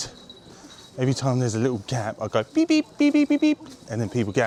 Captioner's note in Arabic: بيب بيب، بيب بيب بيب